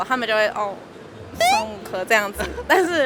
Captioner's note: with disdain